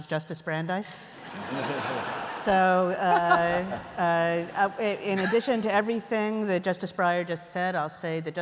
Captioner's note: laughter